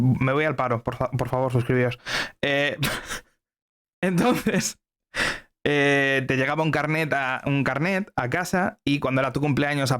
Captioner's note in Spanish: risas